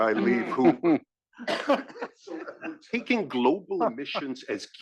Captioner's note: laugh